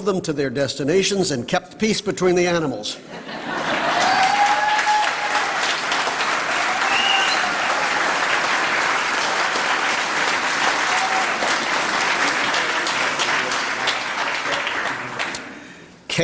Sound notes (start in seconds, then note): 3.5 applause